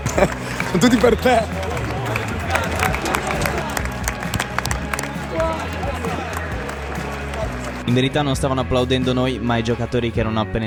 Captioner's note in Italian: Applauso